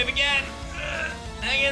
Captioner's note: grunts